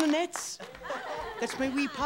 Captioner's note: class laughs